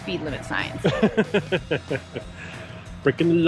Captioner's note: laughing